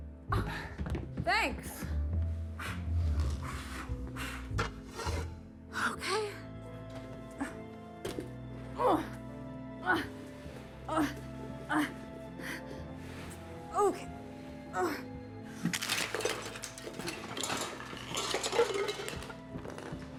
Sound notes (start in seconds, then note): 2.5 Michael blowing; 6.7 ominous orchestral music; 8.8 Joan grunting; 15.5 candles clattering